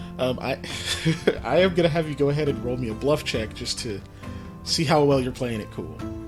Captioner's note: laughs